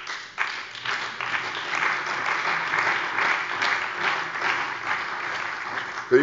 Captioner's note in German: Beifall bei der CDU und dem BÜNDNIS 90/DIE GRÜNEN